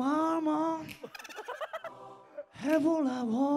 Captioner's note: Bursts out in laughter from the start